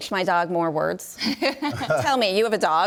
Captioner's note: group laughs